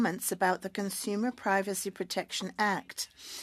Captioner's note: speaking French